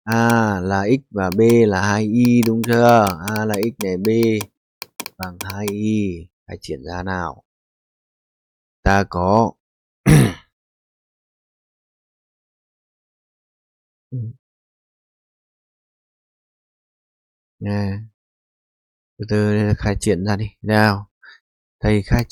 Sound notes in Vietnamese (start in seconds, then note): 10.0 hắng giọng